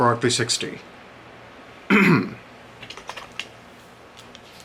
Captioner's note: clears throat